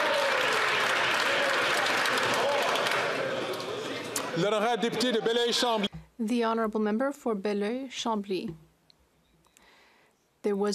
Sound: some Applause

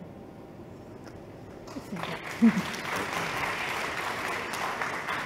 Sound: applause

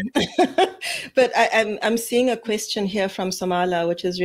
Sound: laughs

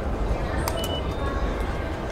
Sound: reader beeps

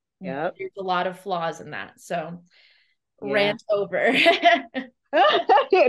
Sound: laughs

